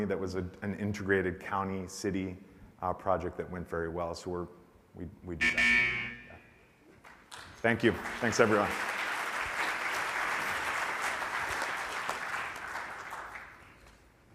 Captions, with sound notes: that was an integrated county/city project that went very well so we do that. (buzzer rings) (audience applauds) Thank you, thanks everyone.